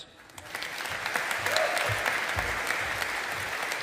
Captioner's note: audience applauding